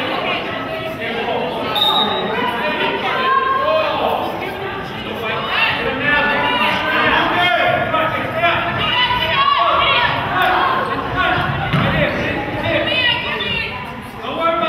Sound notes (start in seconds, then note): 1.7 whistle blows